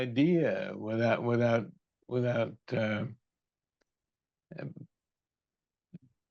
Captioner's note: laughs